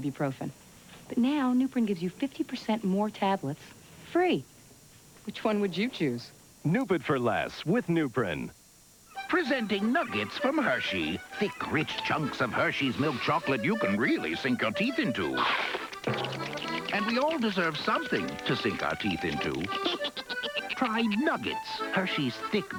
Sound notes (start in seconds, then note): 15.4 crunch!